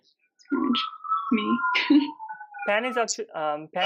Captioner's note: laughing